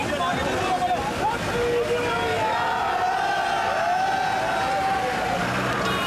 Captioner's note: Hindi